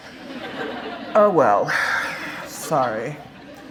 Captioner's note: laughter